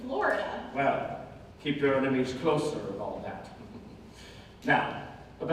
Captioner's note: chuckle